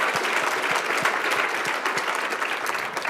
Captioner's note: applause